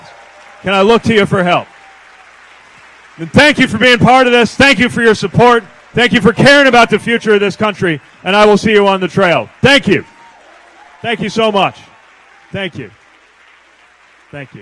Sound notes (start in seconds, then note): 2.5 applause